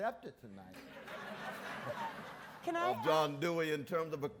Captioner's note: audience laughs